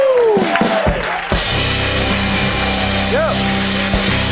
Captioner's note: cheers and applause